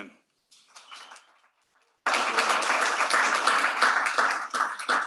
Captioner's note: applause